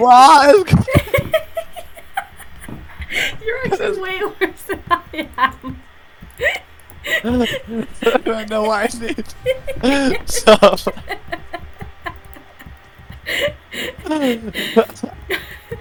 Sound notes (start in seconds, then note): 3.2 little inhale again before death; 6.8 laugh inhale again